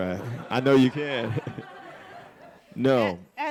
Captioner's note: audience laughing